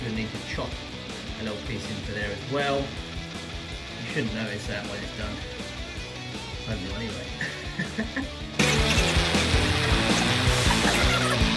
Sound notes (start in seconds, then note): 7.3 chuckles; 8.7 upbeat music